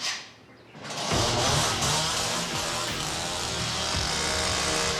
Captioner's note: chainsaw starting